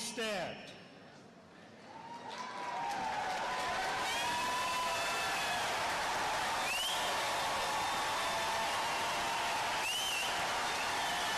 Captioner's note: cheers and applause